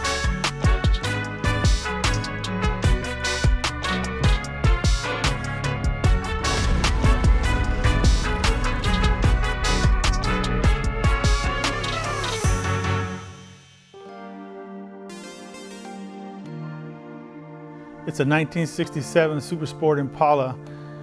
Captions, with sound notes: (lively music) (whooshing) (gentle music) - It's a 1967 Super Sport Impala.